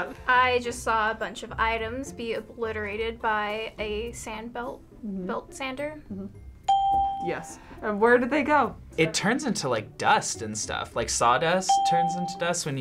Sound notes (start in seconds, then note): 6.6 ding